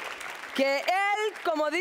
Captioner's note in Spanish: Aplausos